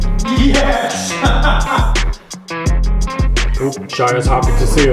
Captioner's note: laughs